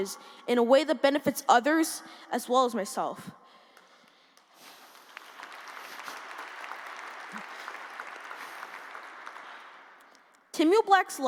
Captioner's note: applause